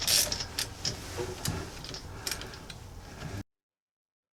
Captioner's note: screw driver rattling